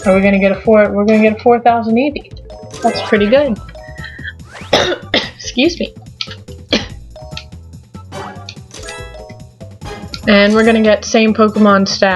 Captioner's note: cough